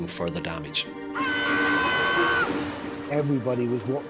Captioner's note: victim shouts